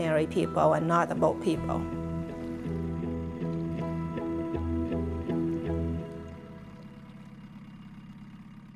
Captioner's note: sounds of boat motor and water